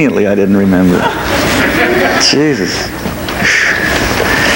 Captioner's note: audience laughs lightly